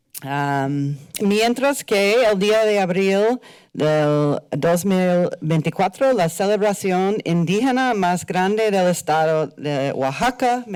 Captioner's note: foreign language